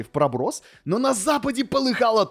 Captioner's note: inhale